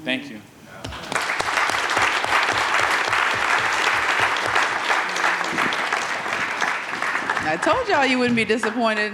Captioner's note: audience clapping